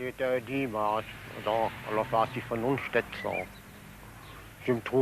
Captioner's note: speaking in foreign language